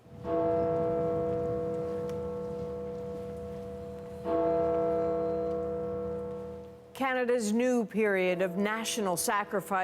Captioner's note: bell tolling